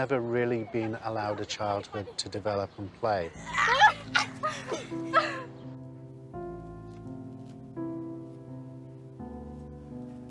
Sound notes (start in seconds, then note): 3.4 laughing; 5.8 dramatic piano music